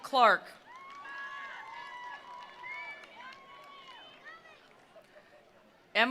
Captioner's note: attendees cheering; attendees applauding